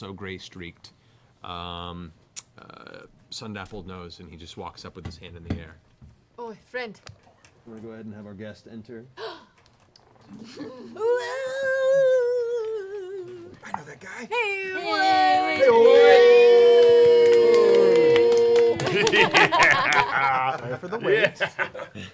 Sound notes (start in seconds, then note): 14.7 cheers